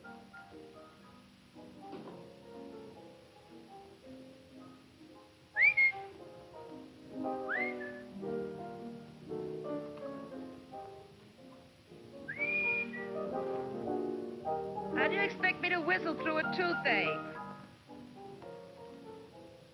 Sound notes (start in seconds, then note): 0.0 piano music playing; 5.5 whistling